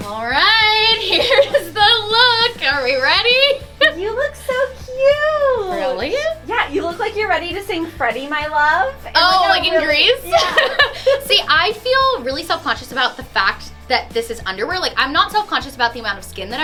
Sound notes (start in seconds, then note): 3.5 laughing; 9.1 laughing